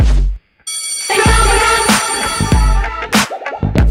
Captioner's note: bell rings